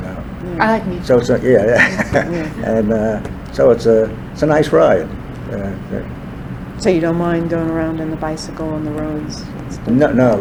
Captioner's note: laughs